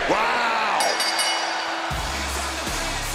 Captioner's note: bell rings